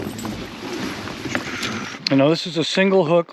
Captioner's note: clattering